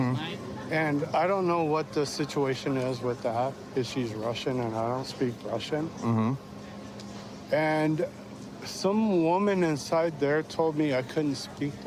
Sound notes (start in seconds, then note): none